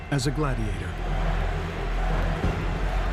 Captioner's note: crowd chanting "caesar"